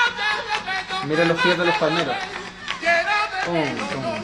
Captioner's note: people clapping